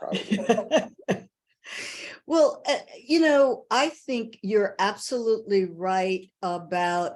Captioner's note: laughs